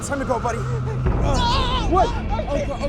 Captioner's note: screams